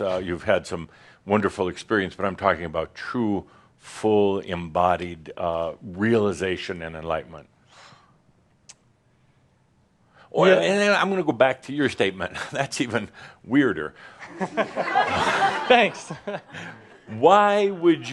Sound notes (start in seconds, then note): 14.2 laughter